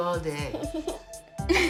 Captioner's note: laughter